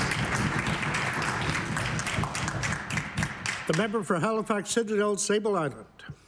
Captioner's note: applause